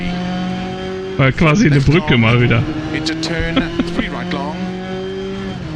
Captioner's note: laughs